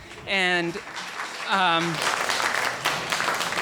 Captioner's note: applauding